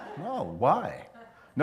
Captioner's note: laughter